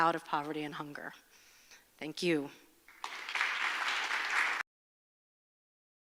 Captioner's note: audience applauds